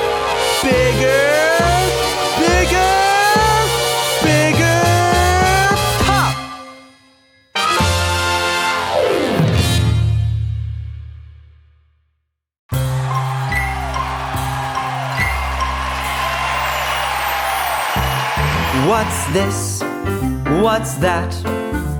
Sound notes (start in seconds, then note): 12.7 gentle music; 14.5 cheering